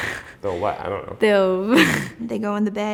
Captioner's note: girl giggles